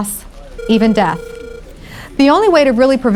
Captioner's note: phone ringing